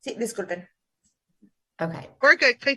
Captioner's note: translator speaking in Spanish